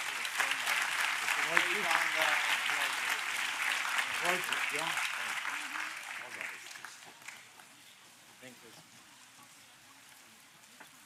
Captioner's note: applause